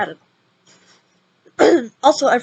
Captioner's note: cough x6